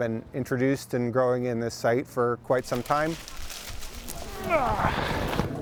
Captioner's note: grunt